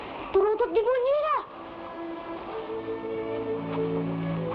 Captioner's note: boy speaking in Tagalog